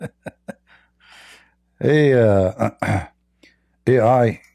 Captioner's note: Ketawa